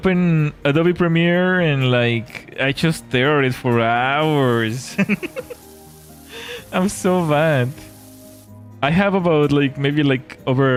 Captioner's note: laughter